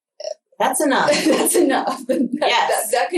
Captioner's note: laughs